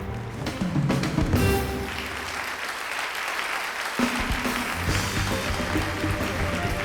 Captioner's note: applause